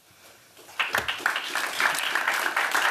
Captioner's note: applause